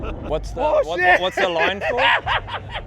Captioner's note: laughs